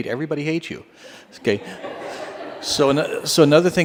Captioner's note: laughter